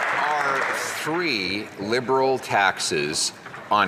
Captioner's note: some Applause